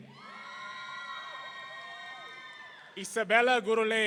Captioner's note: audience cheering